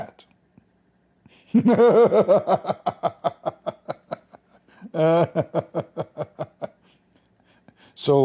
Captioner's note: Ketawa